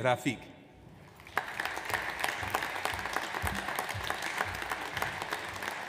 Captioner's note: audience applauds